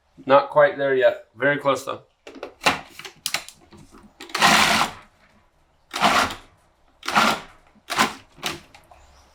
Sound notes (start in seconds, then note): 2.5 lid clicking; 4.3 food processor whirring